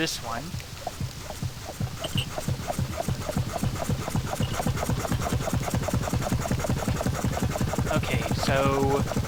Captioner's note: pumping noises